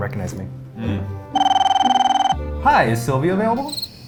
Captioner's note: phone ringing